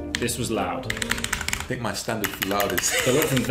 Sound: chuckles nervously

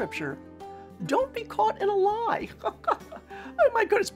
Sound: laughs

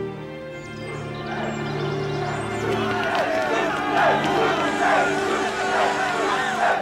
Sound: birds chirping; crowd chanting

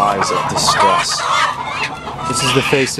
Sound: pained squawking

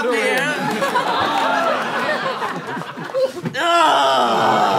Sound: laughter

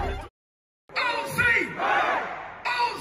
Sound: chanting

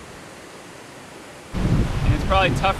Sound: waves crashing

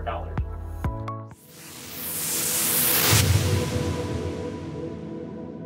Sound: whooshing

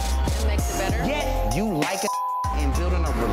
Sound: beep; beep

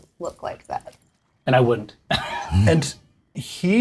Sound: laughs

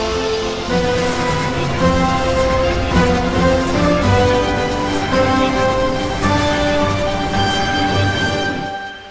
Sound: Time Machine Whirrs

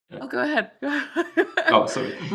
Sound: laughs

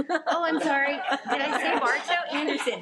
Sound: people laugh

